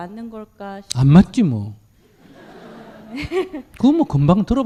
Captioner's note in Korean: 청중 웃음